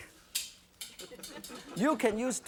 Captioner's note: metal can clinking; audience laughing